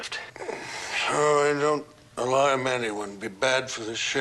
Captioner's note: sighing